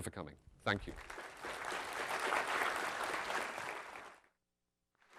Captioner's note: applause